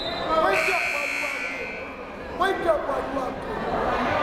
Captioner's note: timer buzzes